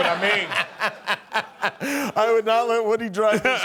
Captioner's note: laughing